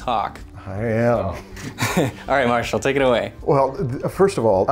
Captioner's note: chuckles